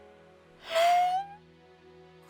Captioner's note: gasps